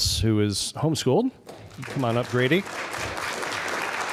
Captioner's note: applause